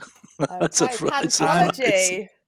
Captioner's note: laughter